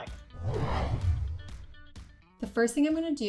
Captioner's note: logo whooshing